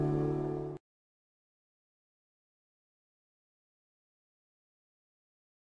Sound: silence

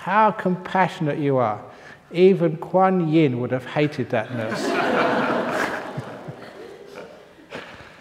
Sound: laughter

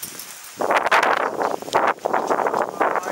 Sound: wind blowing

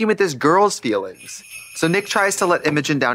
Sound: sleigh bells jingling

